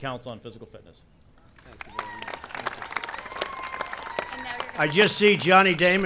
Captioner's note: applause